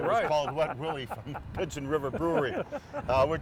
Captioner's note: chuckling